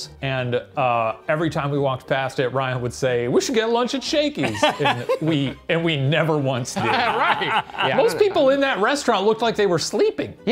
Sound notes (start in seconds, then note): 4.4 laughing; 6.7 laughing